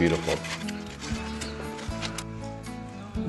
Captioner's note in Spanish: aserrar madera